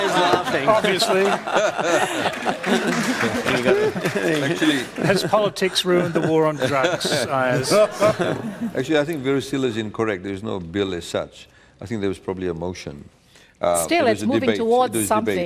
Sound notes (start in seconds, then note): 2.7 applause; 7.3 laughter